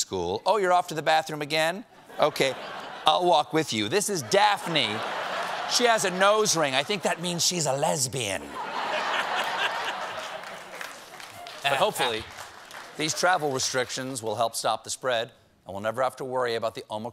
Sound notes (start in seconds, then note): 12.0 laughter